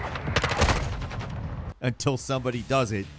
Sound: gun firing

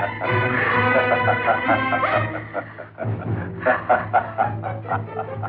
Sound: laughing

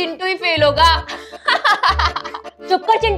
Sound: laughing

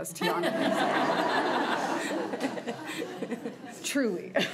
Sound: crowd giggling

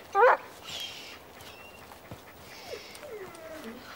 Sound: howling

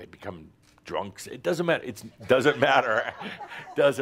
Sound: some chuckles

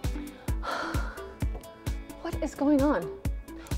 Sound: sighs

